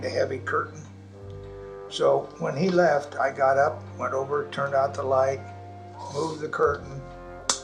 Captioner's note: slaps imaginary glass